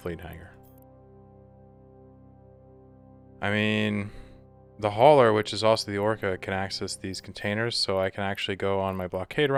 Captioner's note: sigh